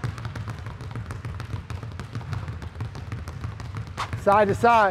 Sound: balls continue thudding

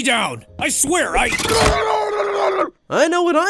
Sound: Fishstick mumbling

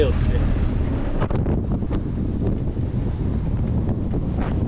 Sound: wind blowing

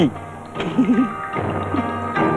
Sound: laughs

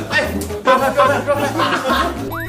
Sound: haha

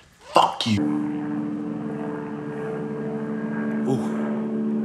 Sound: airplane flies overhead

